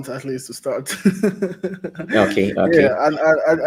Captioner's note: laughs